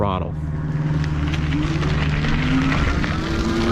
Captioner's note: motor humming